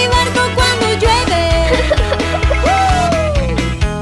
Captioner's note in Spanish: Risas